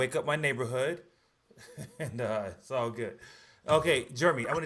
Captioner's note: laughs